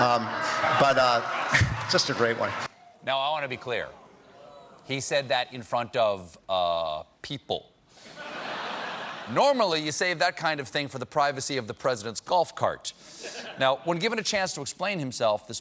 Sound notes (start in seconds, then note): 8.0 laughter